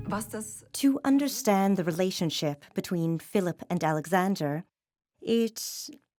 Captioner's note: in German